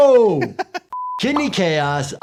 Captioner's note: Anthony laughing